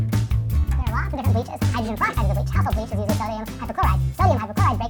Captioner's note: squeaky chipmunk voice